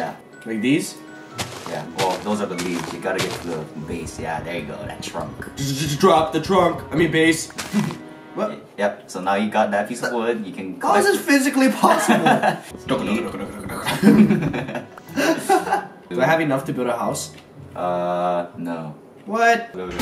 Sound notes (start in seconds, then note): 12.8 gibberish; 13.1 giggles